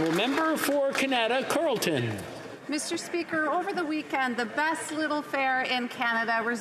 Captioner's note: applause